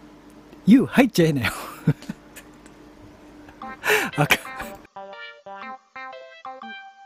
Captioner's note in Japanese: 笑い